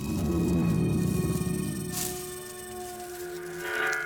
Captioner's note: rattles and groans